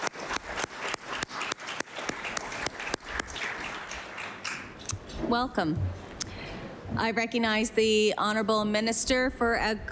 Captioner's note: applause